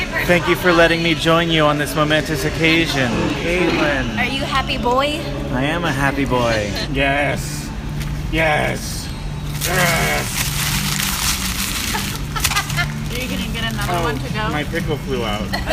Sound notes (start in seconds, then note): 9.5 paper crinkling; 11.8 laughs